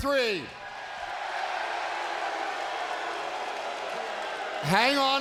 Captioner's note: audience cheers